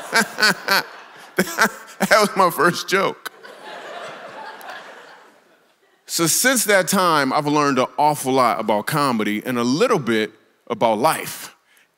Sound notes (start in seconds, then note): 0.0 laughs; 0.0 congregation laughs